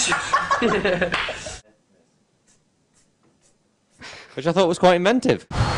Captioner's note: really, really loud laugh + clap; cute laugh; sprinkler noises